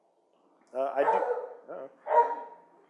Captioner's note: dog barks